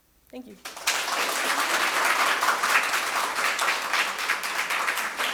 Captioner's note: audience applauds